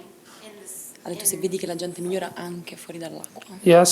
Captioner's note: speaking italian